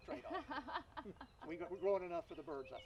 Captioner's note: laughing